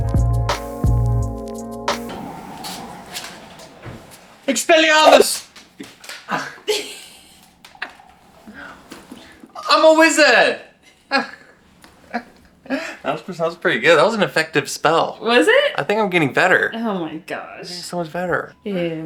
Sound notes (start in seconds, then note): 6.3 laughs